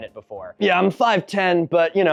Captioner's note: imitating dude bro